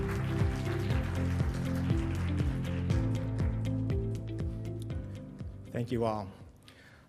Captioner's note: applause